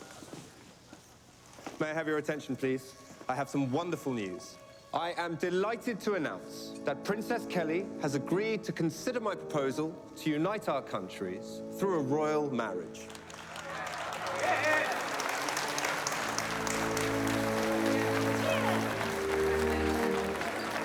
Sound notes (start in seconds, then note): 13.0 applause